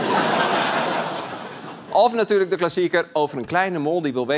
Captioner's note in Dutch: gelach